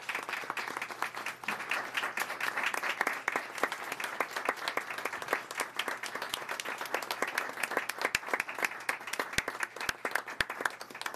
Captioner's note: applause